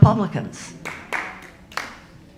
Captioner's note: audience applauding